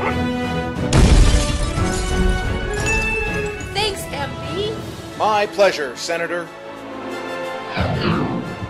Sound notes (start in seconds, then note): 2.8 ding, ding; 7.7 woosh